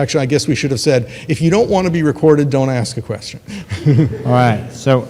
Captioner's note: laughs